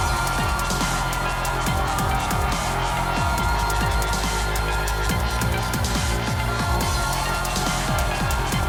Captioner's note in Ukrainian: оплески